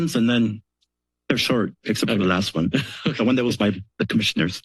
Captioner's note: laughter